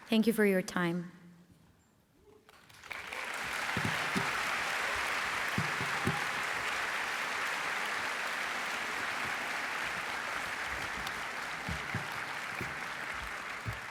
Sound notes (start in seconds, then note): 2.8 applause